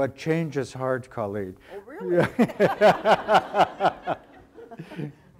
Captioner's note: audience laughter